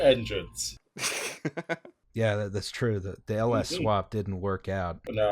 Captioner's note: laughter